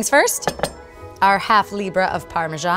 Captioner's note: bowl clanking